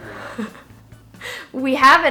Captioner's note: chuckles